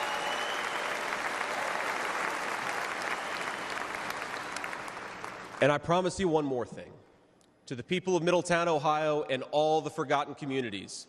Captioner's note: cheers and applause